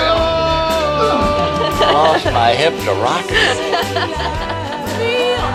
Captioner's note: laughing